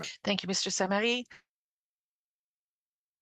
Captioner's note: speaking in French